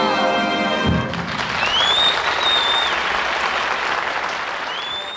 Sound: audience applauds

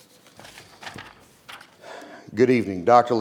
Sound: papers flattering; sighs

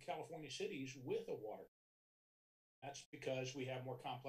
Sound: audio cuts

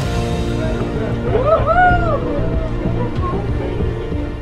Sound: people cheering

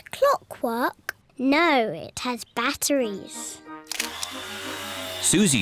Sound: whirring

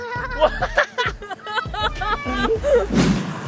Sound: laughter

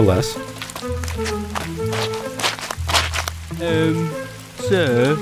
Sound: walking in mud

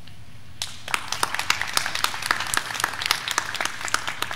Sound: graduands clapping

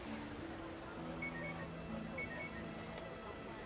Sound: phone chiming

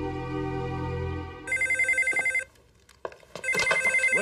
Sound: phone ringing

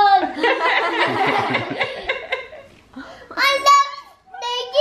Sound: all speakers laugh together

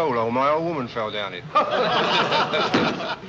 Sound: laughter

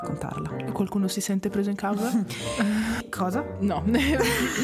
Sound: laughing

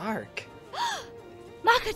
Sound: KOTONOHA gasps

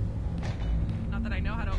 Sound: clank

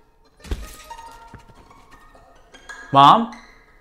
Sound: water splashing

